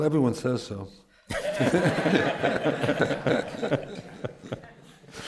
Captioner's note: laughter